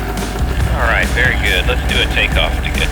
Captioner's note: motor starting; talking on the radio